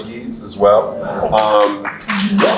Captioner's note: applauds